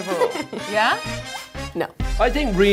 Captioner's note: giggles